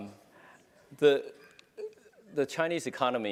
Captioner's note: laugh